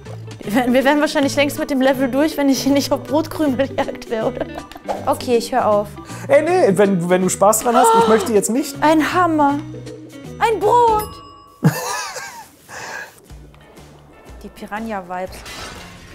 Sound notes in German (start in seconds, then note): 10.8 Klingeln; 13.1 Lässige Musik